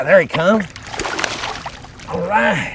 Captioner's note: splash